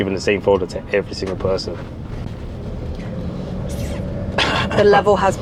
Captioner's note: clears throat